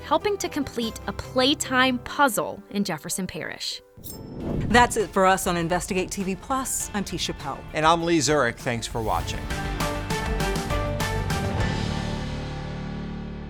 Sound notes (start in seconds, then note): 4.0 swooshing; 9.8 bright music